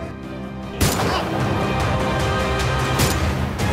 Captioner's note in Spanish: Disparos